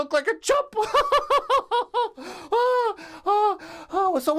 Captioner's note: laughs